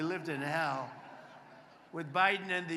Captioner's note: applause